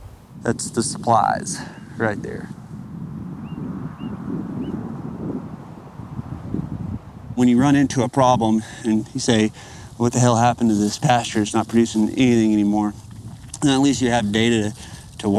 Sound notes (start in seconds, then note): 3.5 wind howling